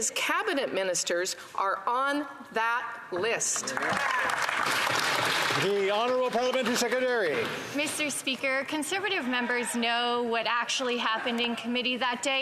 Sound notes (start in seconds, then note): 6.3 some Applause